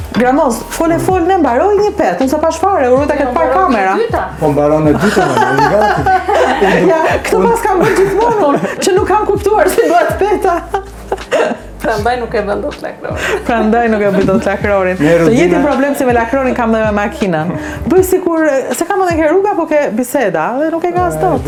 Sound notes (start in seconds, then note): 5.0 laughs; 10.8 laughs